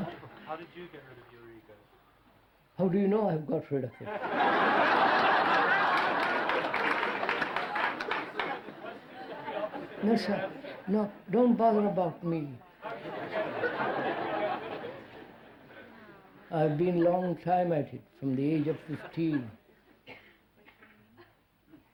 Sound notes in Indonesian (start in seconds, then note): 5.2 Tepuk tangan; 5.4 Tertawa; 12.8 Tertawa